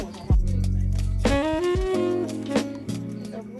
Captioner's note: background chatter